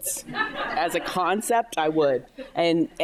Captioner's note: audience laughing